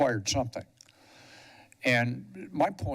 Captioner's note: pause